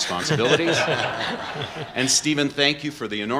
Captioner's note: laughter